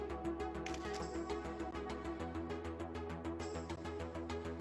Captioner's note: camera shutter clicks